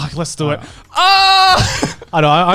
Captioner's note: laughs